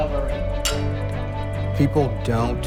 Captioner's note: glasses clank